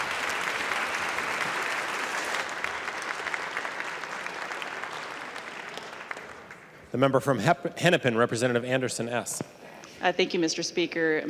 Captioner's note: applause